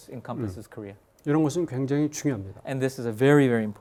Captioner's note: speaking in Korean